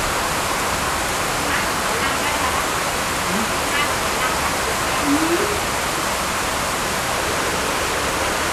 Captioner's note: raining sounds with people's voices